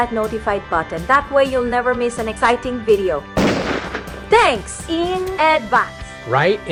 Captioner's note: 💥Bang💥